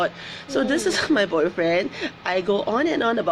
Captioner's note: laughs